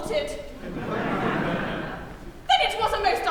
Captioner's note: laughter